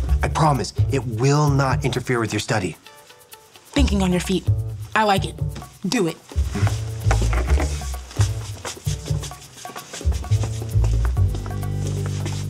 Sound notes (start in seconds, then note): 7.6 shuffling